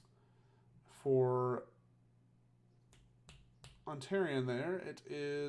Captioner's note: fingers snapping